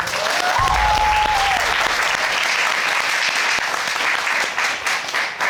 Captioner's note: crowd cheering